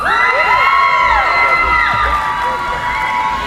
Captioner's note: cheering